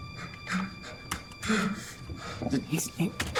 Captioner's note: Aiden panting